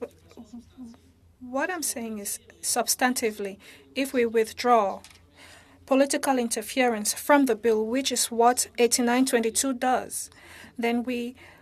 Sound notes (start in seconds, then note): 4.4 speaking French